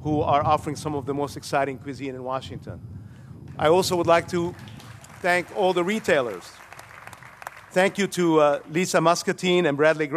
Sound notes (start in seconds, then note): 3.5 applause